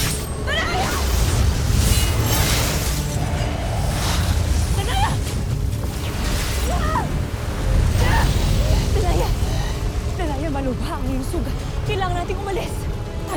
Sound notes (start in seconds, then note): 1.0 evil energy whoosh & crackle; 1.0 powerful blast-crackle; 5.6 growls; 5.6 powerful whoosh-crackle